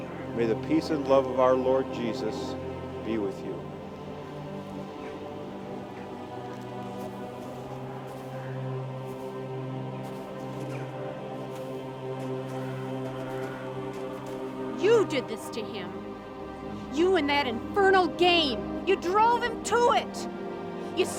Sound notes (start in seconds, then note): 5.5 somber music continues; 5.5 wind howling